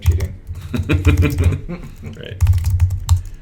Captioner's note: laughs